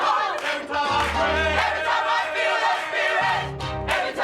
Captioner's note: full choir; lower voices; higher voices; full choir